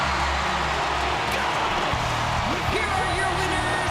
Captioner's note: audience cheering